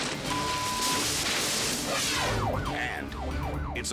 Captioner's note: branches break; beep